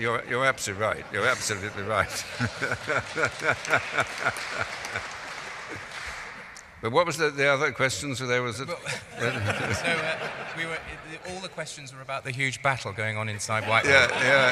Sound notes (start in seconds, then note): 3.7 laughing; 4.7 applause; 8.7 laughing; 13.6 laughing